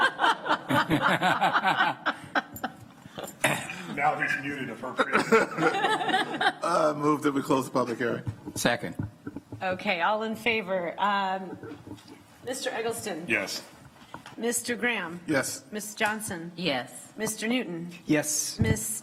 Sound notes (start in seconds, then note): 4.9 laughter